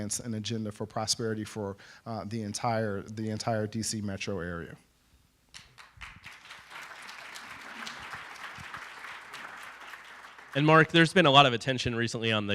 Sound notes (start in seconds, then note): 5.5 applause